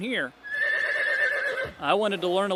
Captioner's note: horse nays